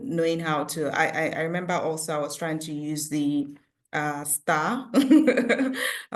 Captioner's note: laughs